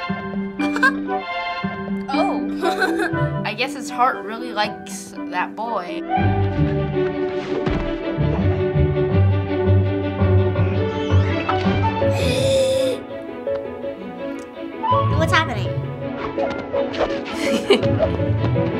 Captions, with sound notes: - (laughs) - Oh! (laughs) - I guess his heart really likes that boy. - (inhales) - What's happening? - (laughs)